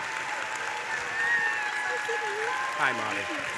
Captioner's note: cheering continues